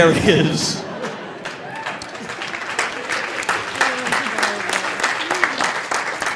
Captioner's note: audience laughing; audience applauding